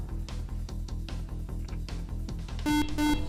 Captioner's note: beep